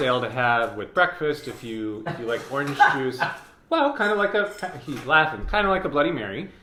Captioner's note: laughing